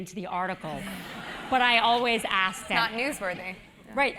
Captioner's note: laugh